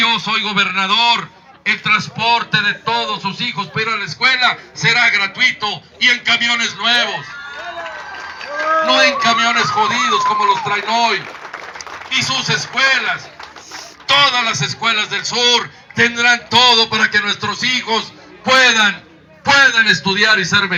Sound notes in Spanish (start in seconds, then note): 7.4 aplausos